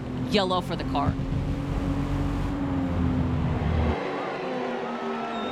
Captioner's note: engines thrumming